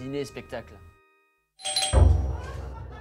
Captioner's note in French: bruît de sonnette